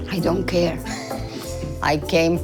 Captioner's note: laughs